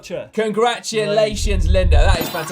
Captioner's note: graphic pops and tinkles